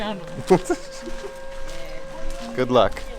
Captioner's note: laughing